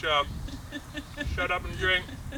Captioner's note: laughing